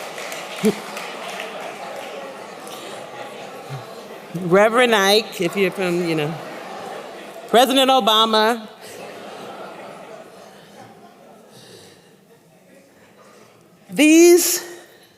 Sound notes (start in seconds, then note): 12.2 laughter